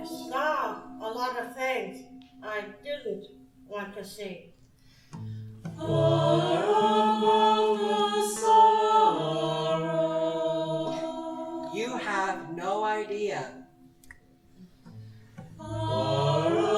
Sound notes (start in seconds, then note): 11.0 bell